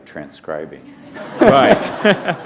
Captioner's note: laughter